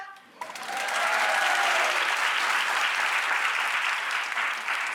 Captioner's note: audience applauding